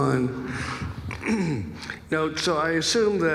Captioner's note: clears throat